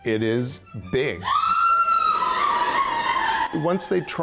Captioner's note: woman screaming